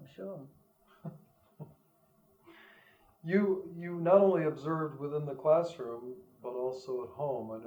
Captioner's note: laughs